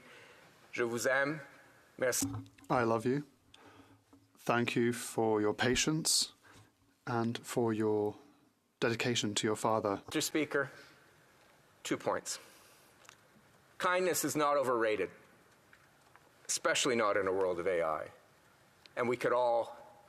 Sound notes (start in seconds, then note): 9.6 speaking French